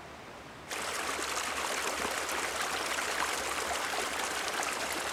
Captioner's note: water sloshing